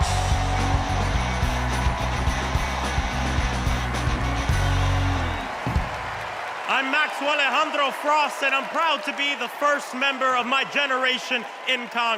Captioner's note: cheers and applause